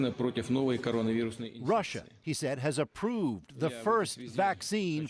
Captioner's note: speaking Foreign Language